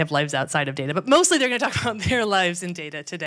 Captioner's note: laughs